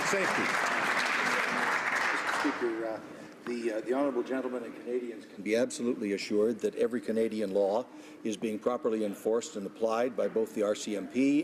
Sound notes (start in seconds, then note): 0.0 some Applause